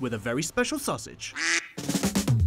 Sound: quacking; hiphop music

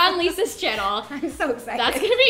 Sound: laughing

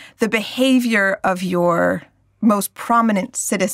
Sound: none

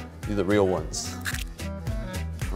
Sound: egg cracking; upbeat music

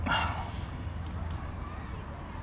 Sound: sigh

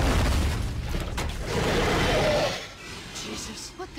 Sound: The Mind Flayer roaring

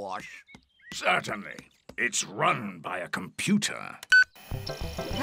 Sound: beeps

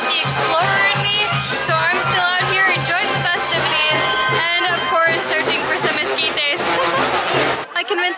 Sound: laughter

